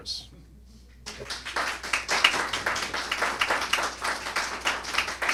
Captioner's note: applause